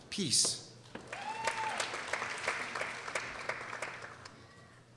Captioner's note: people applauding